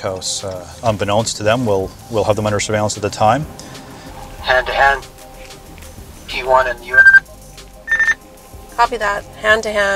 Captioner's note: radio noise